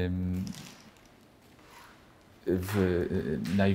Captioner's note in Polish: cisza